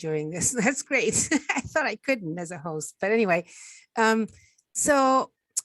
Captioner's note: laughs